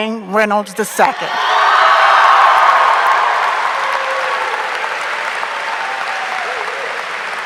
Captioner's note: audience cheering; audience applauding